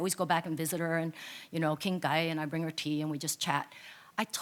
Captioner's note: speaks in foreign language